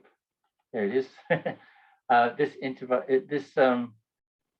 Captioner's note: chuckles